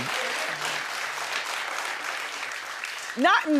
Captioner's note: audience clapping